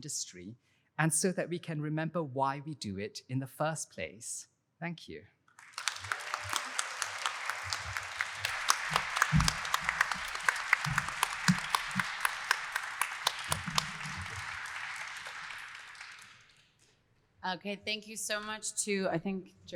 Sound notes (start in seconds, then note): 6.2 audience applauding